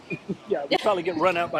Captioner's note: laughing